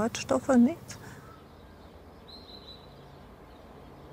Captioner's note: birds chirping